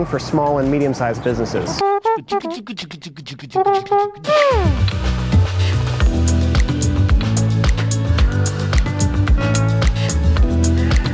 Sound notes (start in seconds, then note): 2.0 beat boxing; 3.8 lounge music